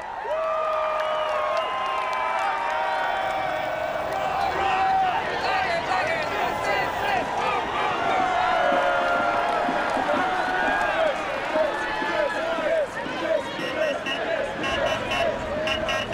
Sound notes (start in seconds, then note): 5.4 crowd chanting; 13.4 car horn honking